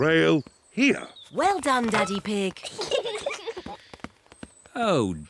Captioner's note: peppa and george giggle